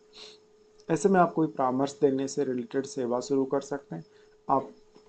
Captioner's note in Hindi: नाक से की जाने वाली आवाज़